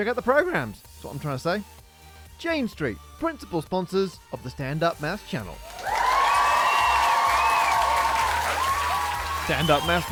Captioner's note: crowd cheers